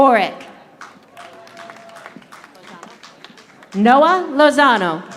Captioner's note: audience applauding